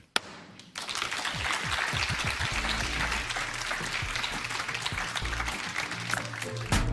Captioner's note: applause